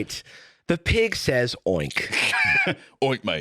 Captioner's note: laughs